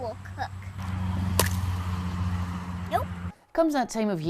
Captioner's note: egg cracks